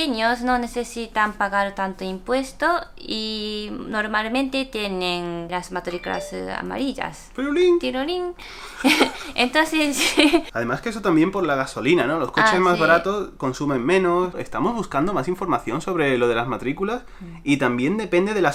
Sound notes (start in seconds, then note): 5.9 random notification sound; 9.9 giggles